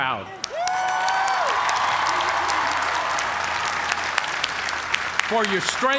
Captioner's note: cheers and applause